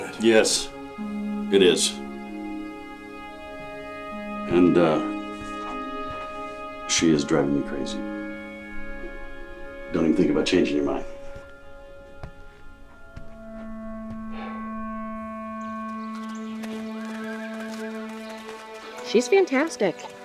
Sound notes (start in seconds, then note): 13.2 awkward music; 17.0 horse whinnying; 17.0 light music